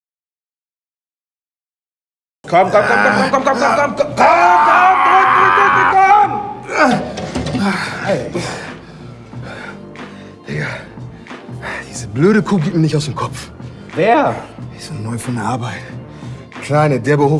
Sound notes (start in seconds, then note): 2.6 shouts; 4.1 groans